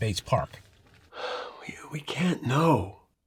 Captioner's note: mcintire sighs